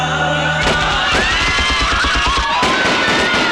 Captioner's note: gun Firing